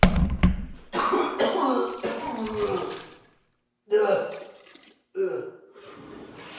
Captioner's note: tooth thuds; camera thuds; Jacob vomiting